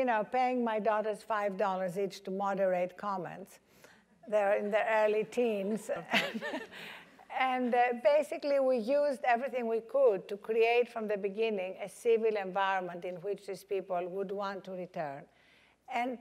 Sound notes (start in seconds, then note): 5.9 laugh